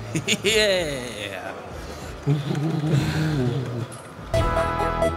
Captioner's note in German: Sie machen absurde, euphorische Geräusche